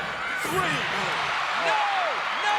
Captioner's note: audience cheering